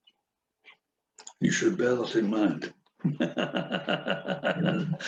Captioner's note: laughs